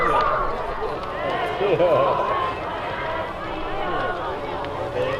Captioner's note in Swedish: Applåder